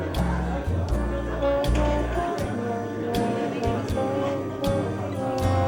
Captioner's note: bluesy trumpet music; diner sounds